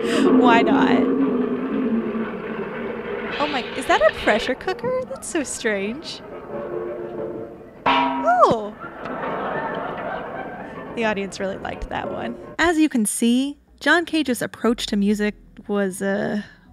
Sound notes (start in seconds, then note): 7.7 gong; 8.6 audience laughs louder this time